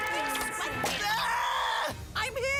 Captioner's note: Alejandro Screaming